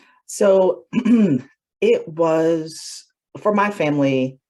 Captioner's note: clears throat